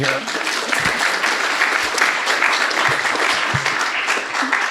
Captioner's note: people applauding